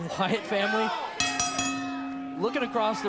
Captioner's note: bell ringing